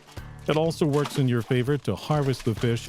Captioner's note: background work sounds